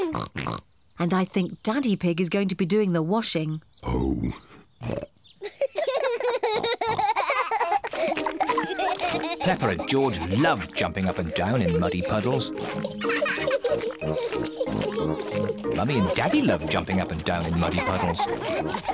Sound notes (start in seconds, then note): 0.0 both giggle, snort; 4.7 both giggling and snorting; 4.8 snorts; 12.5 both giggling